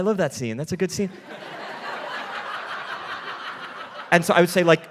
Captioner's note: audience laughing